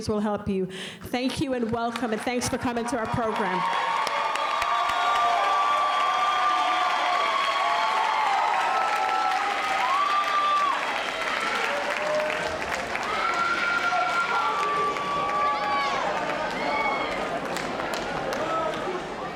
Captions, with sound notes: who will help you. Thank you, and welcome, and thanks for coming to our program. [audience applauding]